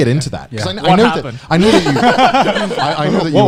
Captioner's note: laughing